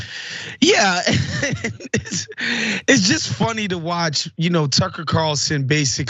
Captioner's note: laugh